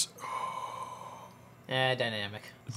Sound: exhales

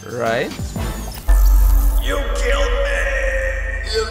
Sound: echoing

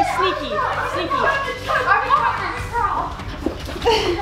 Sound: yelling

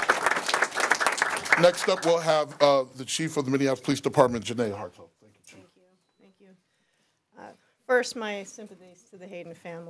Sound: applause

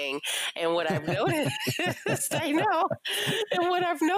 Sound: both laughing

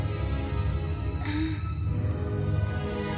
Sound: moans

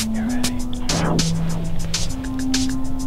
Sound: whispering

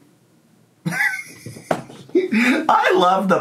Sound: laughs

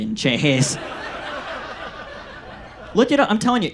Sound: audience laughs

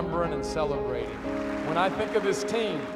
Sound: applause

